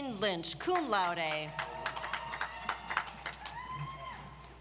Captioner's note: audience applauds